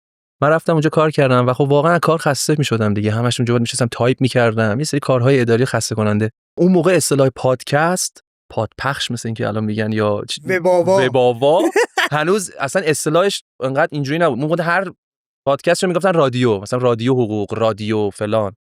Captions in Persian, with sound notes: من رفتم اون‌جا کار کردم و واقعا از کار خسته می‌شدم دیگه همش اون‌جا می‌نشستم تایپ می‌کردم یه سری کارهای اداری خسته کننده. اون موقع اصطلاح پادکست پادپخش مثل این‌که الان می‌گن یا. - وب‌آوا. - وب‌آوا؟ (خنده) هنوز اصلاً اصطلاحش این‌قدر این‌جوری نبود. هر پادکستی رو می‌گفتن رادیو مثلاً رادیو حقوق، رادیو فلان.